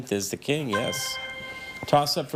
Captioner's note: chime resonating